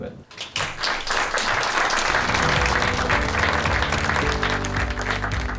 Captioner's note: applause